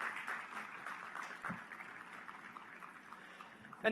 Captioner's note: applause